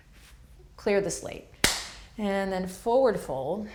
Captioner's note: hands clapping